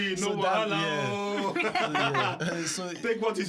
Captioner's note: laughter